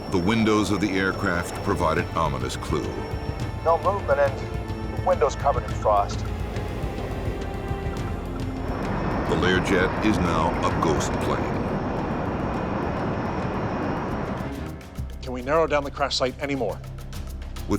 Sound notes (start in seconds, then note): 9.4 voiceover